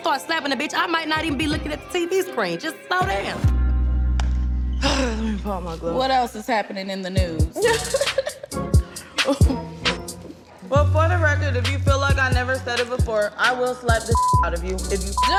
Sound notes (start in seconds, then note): 4.8 sighs; 14.1 beep